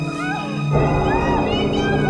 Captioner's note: screams